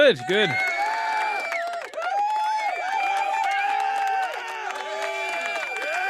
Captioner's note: cheering